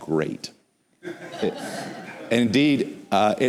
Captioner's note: laughter